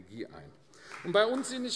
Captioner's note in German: Beifall AfD